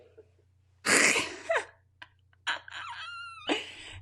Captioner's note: laughs